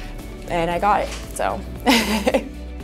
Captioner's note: laughs